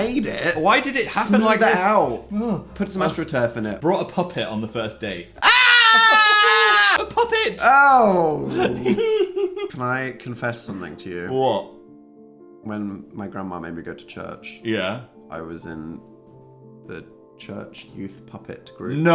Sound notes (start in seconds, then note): 5.4 Dan screaming; 8.2 Phil laughing; 12.2 gentle piano music